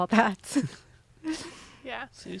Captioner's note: laughs